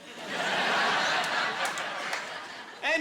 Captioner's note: laughing